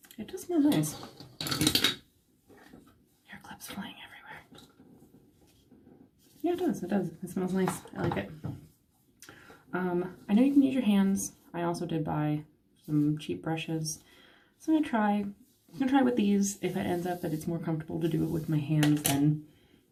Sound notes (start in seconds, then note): 3.2 whispering